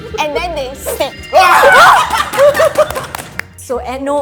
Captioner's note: excited noises